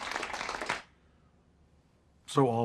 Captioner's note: crowd clapping